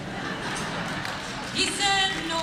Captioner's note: laughter